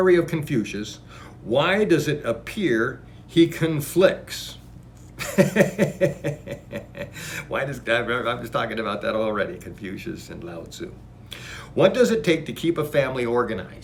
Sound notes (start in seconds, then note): 5.2 laughs